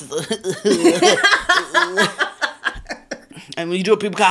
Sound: giggling

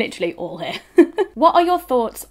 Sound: laughing

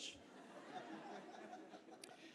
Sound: laughter

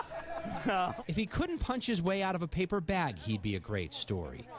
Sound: laughter

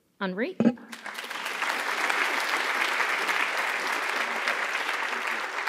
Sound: audience applauding

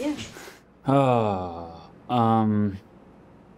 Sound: sighs

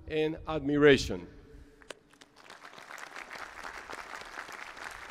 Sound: applause

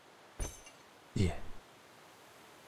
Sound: clink

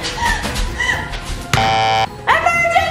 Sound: beeps buzzer

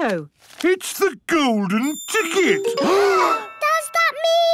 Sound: gasps

